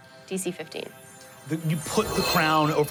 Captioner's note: dramatic music; dramatic ringing